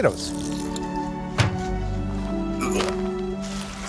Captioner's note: water running; gagging; sloshing sound